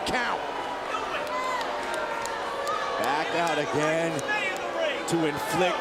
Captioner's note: applause